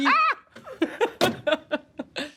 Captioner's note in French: rires